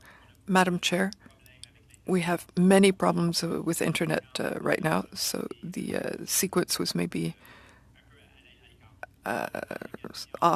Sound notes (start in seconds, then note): 3.1 speaking french